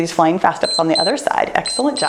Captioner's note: timer beeps